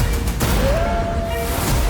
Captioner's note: wolf howling